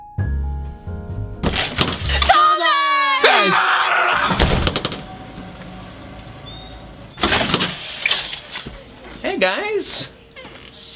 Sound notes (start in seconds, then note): 0.0 relaxing lounge music; 2.2 screams; 5.0 birds twittering